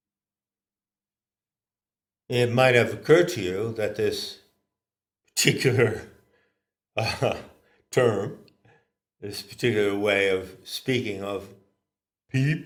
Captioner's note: ha ha